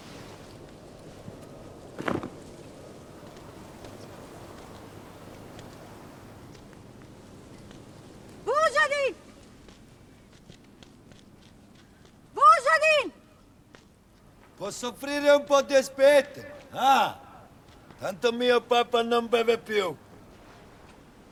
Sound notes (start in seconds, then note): 2.0 jacket drops; 3.5 footsteps